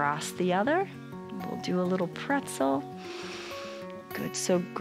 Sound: inhales

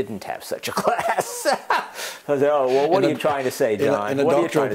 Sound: laugh

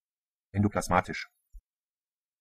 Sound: fast Pronunciation

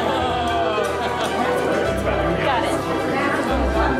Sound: background chatter

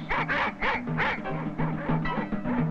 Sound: dogs bark

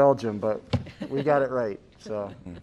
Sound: laughter

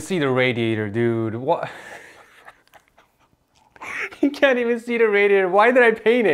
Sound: laughs in pain

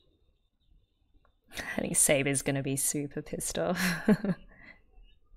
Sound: laughs

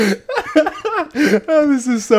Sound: laughing

